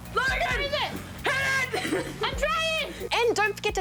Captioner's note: laughs